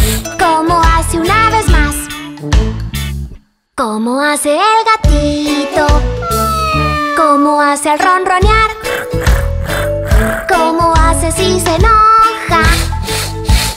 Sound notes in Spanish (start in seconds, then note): 6.2 Maullido; 8.6 Ronroneo